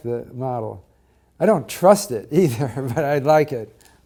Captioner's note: laugh